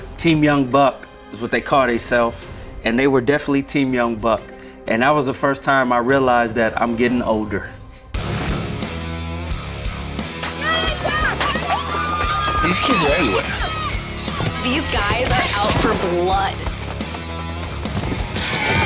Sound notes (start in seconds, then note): 8.1 heavy rock music; 10.4 teammates shout